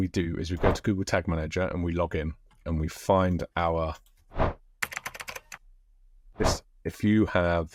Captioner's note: keyboard typing